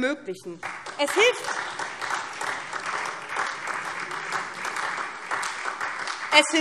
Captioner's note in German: Beifall SPD